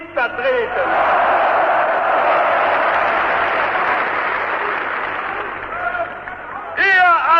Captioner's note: applause